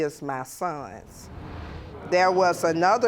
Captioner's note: audience exclaiming